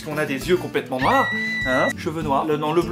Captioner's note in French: cri de petite fille